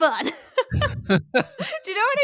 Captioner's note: both laugh